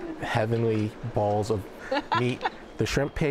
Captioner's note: laughs